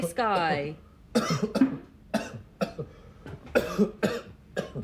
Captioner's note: kemba coughing